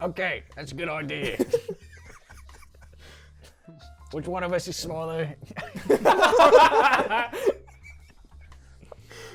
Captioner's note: laughing